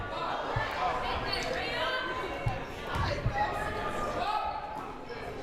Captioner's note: crowd murmuring